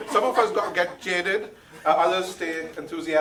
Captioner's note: audience laughing